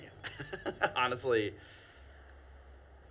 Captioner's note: laughing